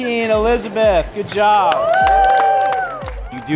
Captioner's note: cheering